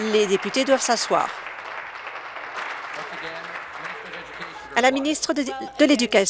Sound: applause

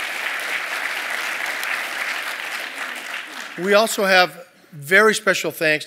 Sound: applause

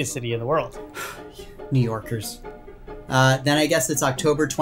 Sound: sighs

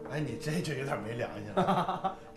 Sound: laughing

